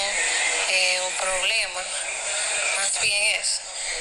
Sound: none

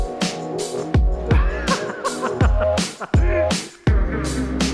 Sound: laughing

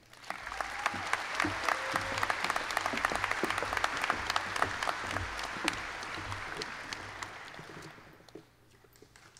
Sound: applause

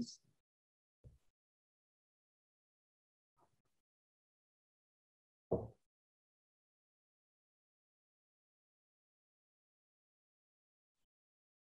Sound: silence

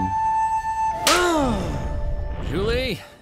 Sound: groaning

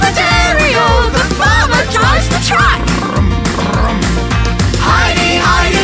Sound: brum brum

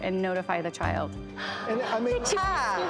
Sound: audience exclamations

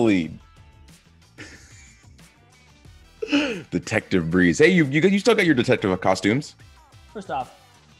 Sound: laugh

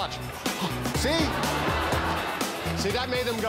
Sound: laughter

